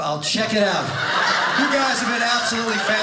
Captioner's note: audience laughing